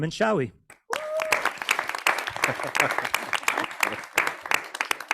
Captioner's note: person cheering